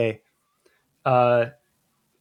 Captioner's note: uh